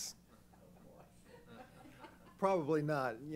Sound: laughter

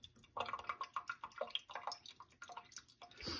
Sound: water draining sounds

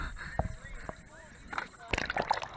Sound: gasping for air

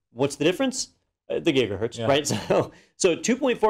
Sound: laugh

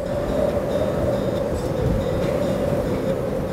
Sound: wind blowing

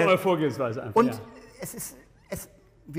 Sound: laughter

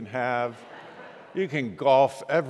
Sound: congregants laughing

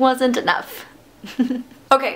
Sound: laughter

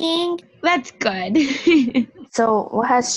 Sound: laughs

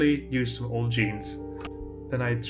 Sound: accidentally left-in click of keyboard

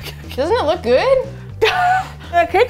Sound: laughs

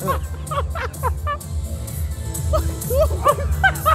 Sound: laughter

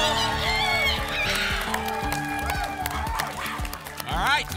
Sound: applause and cheering

